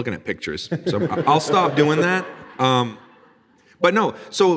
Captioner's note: audience laughing